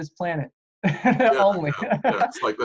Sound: laughter

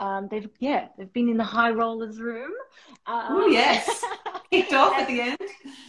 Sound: laughter

